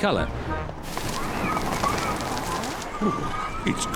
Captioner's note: wind howls